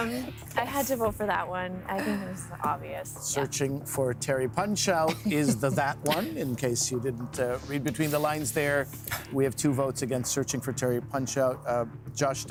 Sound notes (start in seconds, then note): 2.7 laughter